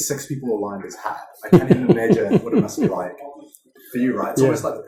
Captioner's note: laughing